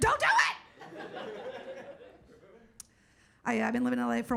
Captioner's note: audience laughing